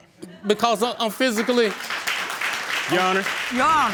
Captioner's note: audience laughing and applauding